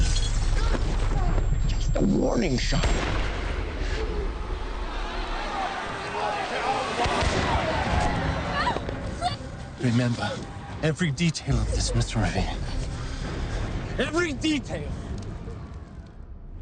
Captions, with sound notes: (glass shattering) - A warning shot. (gunshot bangs) (crowd yelling) (woman shrieks) - Remember every detail of this Mr. Revere. Every detail!